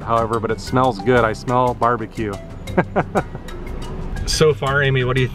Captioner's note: laughter